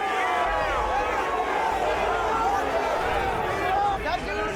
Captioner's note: crowd yelling